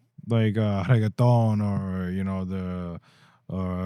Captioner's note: speaking In Foreign Language